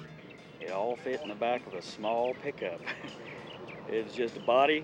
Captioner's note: laughing